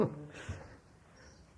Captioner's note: laughs